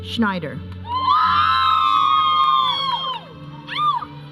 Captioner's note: audience cheering